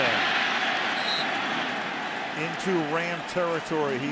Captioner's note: whistle blows